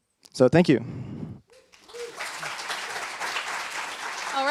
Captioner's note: applause